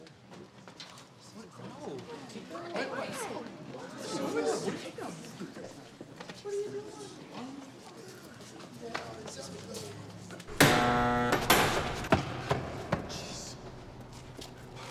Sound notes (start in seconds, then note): 10.5 buzzer